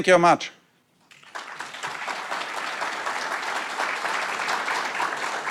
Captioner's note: audience applauds